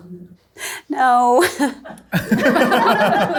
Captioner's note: laughs; all laughing